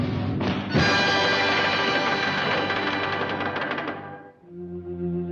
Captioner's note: triumphant music; hammer pounding; somber music